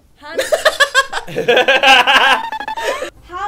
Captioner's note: laughs